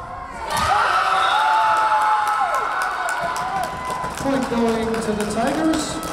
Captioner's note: Tigers cheering; whistle blowing